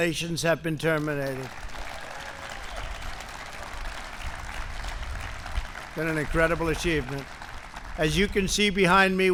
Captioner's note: applause